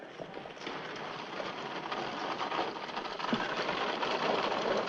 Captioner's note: caravan rattling